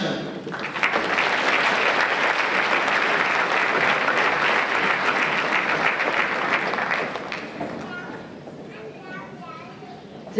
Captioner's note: applause